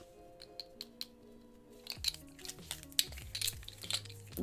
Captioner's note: rings clinking